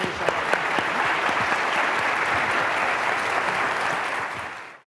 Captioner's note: audience applauds